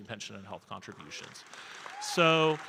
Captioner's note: audience cheering and applauding